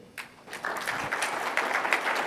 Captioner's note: audience applauding